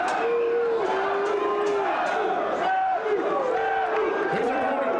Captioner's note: spectators chanting "Sabu!"